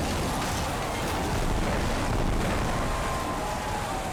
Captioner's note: water splashing; boat crashing; crowd screaming